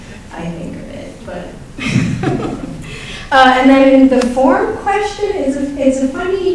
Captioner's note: laughs